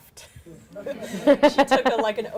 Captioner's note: audience laughing